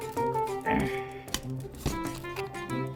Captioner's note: grunts